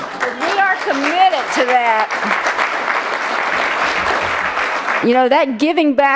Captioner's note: applause